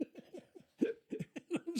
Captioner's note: laughing